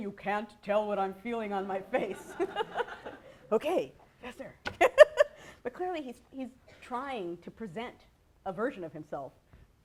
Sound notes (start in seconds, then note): 1.9 laughter; 5.2 laughs